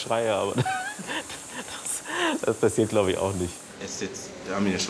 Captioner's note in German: lachend